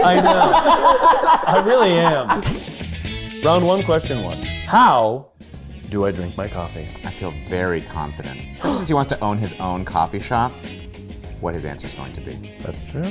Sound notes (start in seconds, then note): 0.0 group laughing; 4.2 upbeat bright music; 8.6 gasps